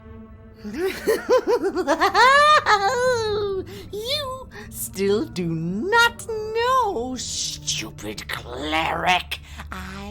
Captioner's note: laughs